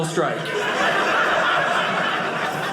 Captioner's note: audience laughing